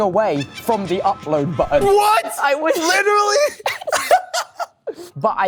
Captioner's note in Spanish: risas